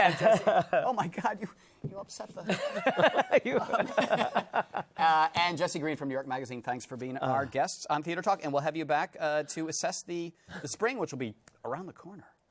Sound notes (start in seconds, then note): 2.4 laughter